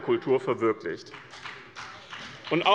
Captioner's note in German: Beifall bei dem BÜNDNIS 90/DIE GRÜNEN und der CDU